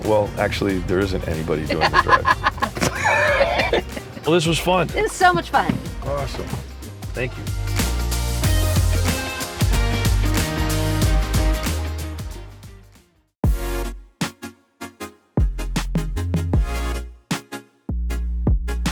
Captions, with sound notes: Well, actually, there isn't anybody doing the driving. (both laugh) Well, this was fun. - It was so much fun! - Awesome. Thank you. (upbeat pop music) (upbeat electronic music)